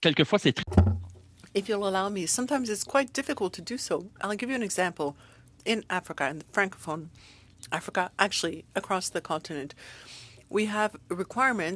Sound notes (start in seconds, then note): 5.4 speaking French